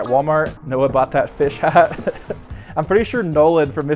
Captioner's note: laughs